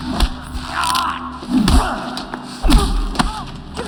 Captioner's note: groans, yells